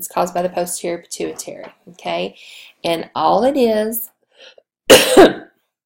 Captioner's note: coughs